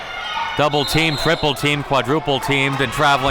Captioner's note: whistle blows